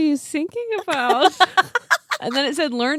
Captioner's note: laughing